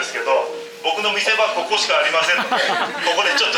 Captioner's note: laughs